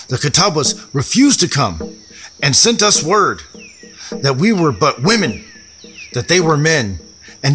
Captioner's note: catawba accent